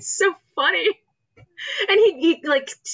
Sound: laughs

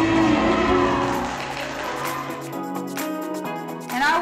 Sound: audience cheering

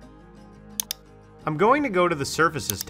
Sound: mouse clicking

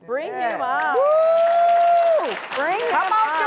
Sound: audience claps

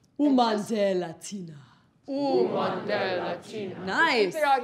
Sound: speaking in foreign language

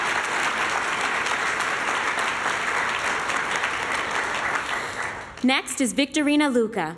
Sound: applause

